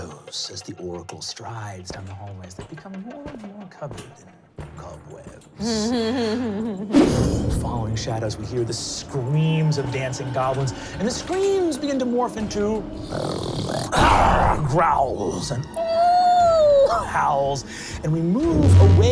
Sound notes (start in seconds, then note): 0.0 dramatic clashing; 5.6 laughing; 12.9 growling; 15.5 howling